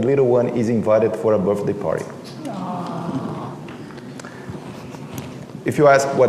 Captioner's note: crowd gasps